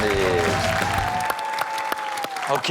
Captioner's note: rock music plays; crowd cheers